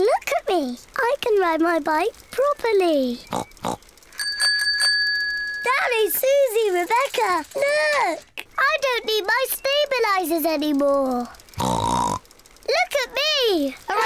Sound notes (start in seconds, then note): 3.2 snorts; 4.0 bicycle bell rings; 11.5 snorts